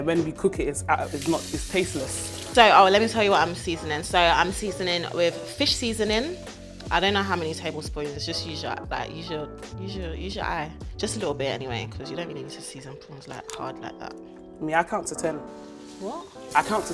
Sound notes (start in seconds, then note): none